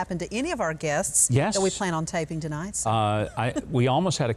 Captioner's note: chuckles